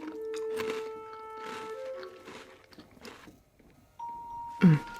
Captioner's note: cookie crunching